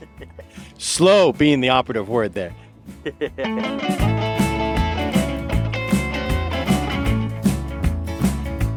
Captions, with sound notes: - Slow being the operative word there. (chuckling) (upbeat music)